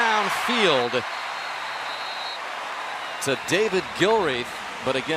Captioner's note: cheering